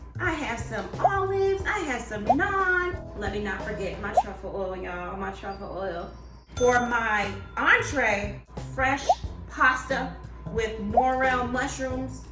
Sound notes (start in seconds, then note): 5.6 ding